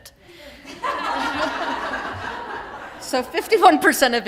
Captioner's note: laughter